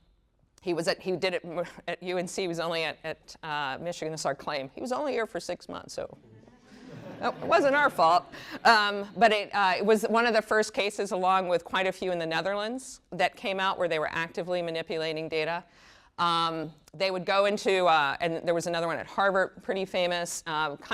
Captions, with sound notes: He was at-- he did it at UNC-- was only at Michigan was our claim. "He was only here for six months so... wasn't our fault." (chuckles) But it was one of the first cases along with quite a few in the Netherlands that came out where they were actively manipulating data. They would go into-- there was another one at Harvard, pretty famous.